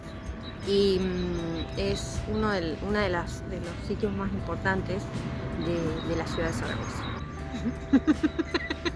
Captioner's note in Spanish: Risas